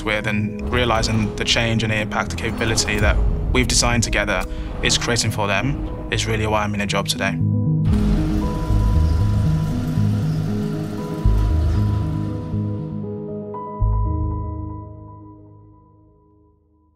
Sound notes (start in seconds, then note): 8.0 film whirring; 8.0 upbeat music